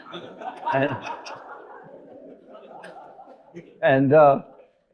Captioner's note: audience laughing